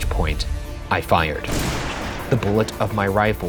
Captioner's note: gun fires